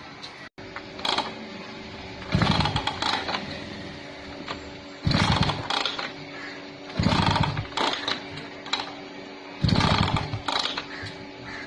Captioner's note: Kicking Lambretta Scooter for starting